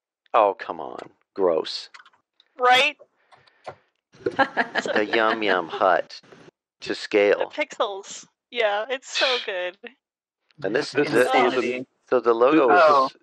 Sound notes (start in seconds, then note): 4.4 delighted laughter